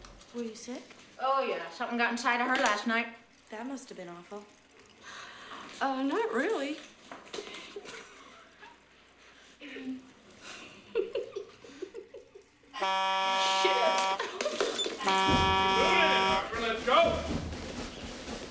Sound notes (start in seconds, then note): 7.3 both Laughing; 12.4 buzzer